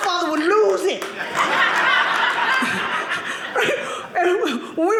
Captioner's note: audience laughing